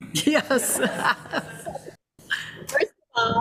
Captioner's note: laughs